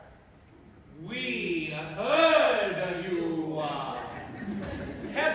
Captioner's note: MARCO & GIUSEPPE, in condescending faux-Italian dialect; laughter